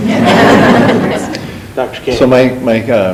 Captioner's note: group laughing